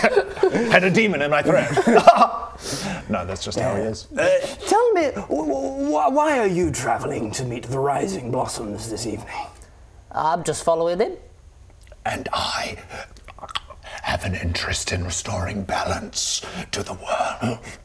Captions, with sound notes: I had a demon in my throat ah ha! No, that's just how he is Tell me, wwwwhy are you travelling to meet the Rising Blossoms this evening? I'm just following 'im And I *throat-damaging noises* have an interest in restoring balance to the world